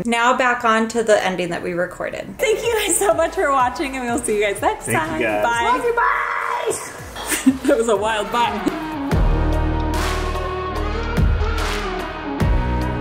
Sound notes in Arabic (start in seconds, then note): 7.1 يضحك; 9.0 موسيقى الروك الجريئة